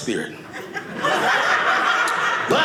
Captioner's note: audience laughing